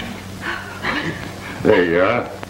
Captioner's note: laughter